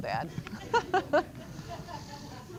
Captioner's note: chuckles; laughter